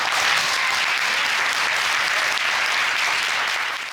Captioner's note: audience applauds